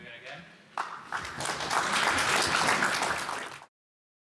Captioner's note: applause